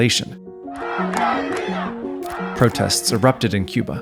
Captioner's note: protesters shouting in Spanish